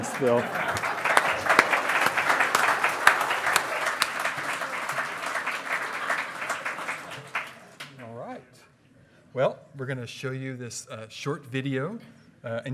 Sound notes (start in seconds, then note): 0.3 hearty laughing; 2.1 loud clapping